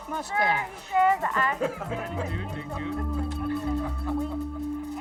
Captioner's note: men laughing